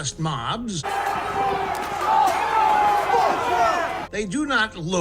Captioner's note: crowd shouting